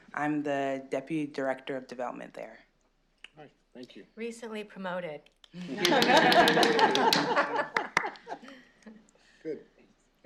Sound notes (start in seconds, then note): 5.6 laughter